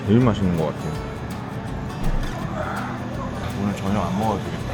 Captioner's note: drooling again